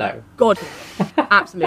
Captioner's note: laughs